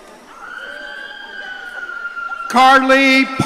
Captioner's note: audience cheering